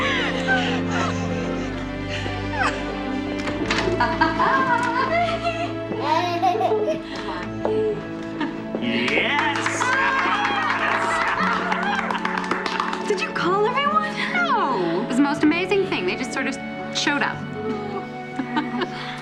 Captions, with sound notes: (LAUGHING) Yes. Did you call everyone? No. It's the most amazing thing, they just sort of, showed up. (LAUGHS)